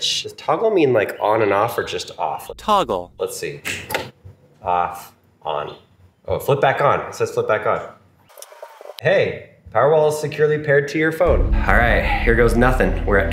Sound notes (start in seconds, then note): 2.6 voiceover; 3.7 switch clicking; 8.9 app whirring